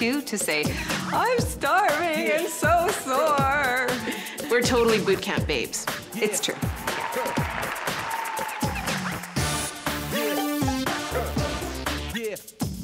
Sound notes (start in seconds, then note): 6.0 audience applauds; 9.6 upbeat music